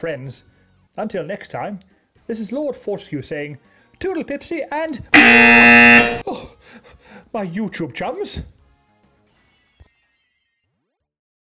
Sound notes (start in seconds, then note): 5.1 buzzer